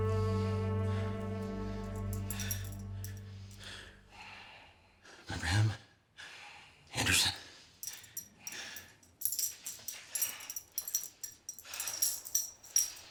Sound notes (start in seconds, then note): 2.3 Brown huffing; 9.2 metal clanking